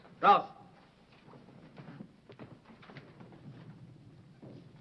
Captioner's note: speaking foreign language